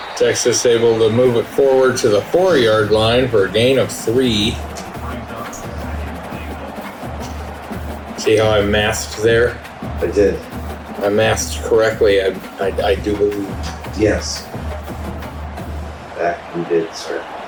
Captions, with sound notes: Texas able to move it forward to the four yard line for a gain of three. [Crowd Noises] See how I masked there? I did. I masked correctly, I do believe. Yes, that you did, sir.